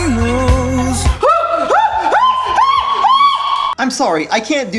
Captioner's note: screaming